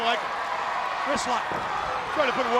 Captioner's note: crowd cheering